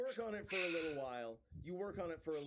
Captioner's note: heavy sigh